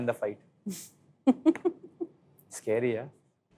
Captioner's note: chuckles